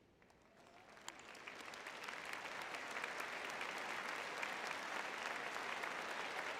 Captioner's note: audience cheering